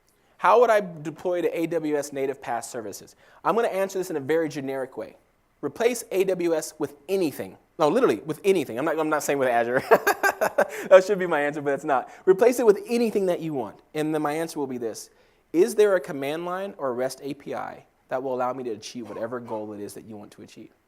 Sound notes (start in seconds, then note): 9.8 laugh